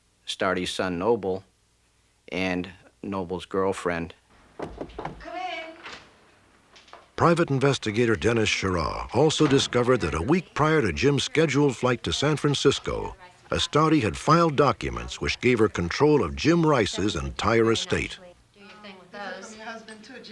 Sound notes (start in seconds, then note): 4.5 knocking